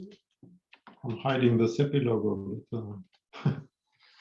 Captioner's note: laughs